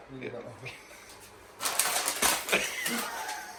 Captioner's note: laughing